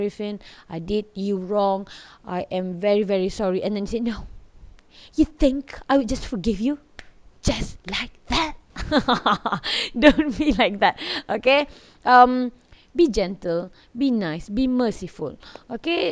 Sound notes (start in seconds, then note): 8.8 laughing